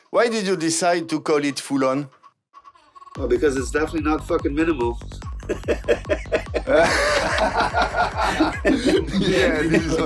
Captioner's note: laughters